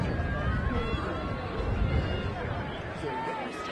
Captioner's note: crowd chattering